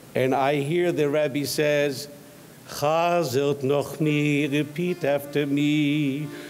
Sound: speaks in foreign language

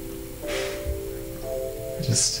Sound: exhales

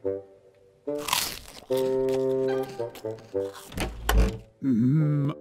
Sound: bites into apple; door opens

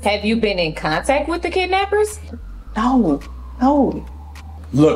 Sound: sirens wailing

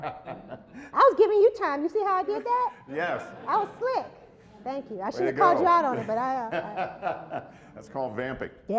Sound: laughter

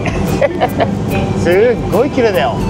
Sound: laughs

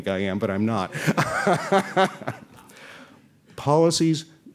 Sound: laughter

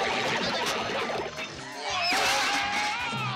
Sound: yelling

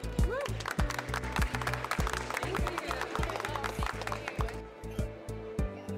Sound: applause

